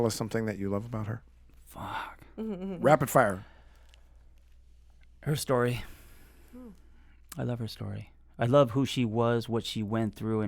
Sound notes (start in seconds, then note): 4.3 sighing